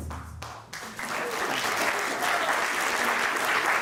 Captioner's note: applause